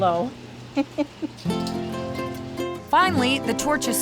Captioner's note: giggling